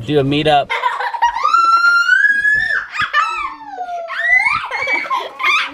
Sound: laughing and screaming

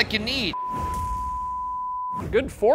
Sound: high-pitched tone beeping

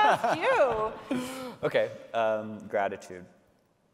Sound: laughs

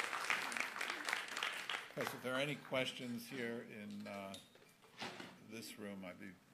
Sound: applause

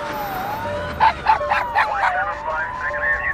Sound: police Sirens; dog Bark; police Chatter

